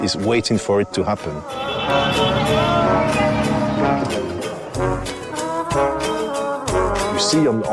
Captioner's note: cars honking